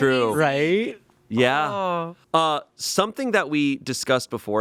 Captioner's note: none